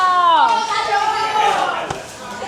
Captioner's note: boys cheering that they can go play ball now